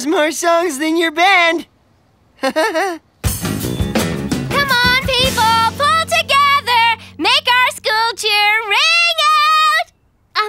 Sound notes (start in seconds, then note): 2.4 laughing